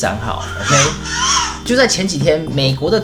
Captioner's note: brake sound